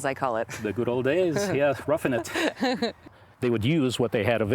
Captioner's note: laughing